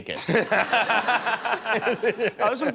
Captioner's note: laughter